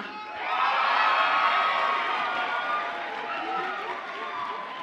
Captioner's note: audience applauds and cheers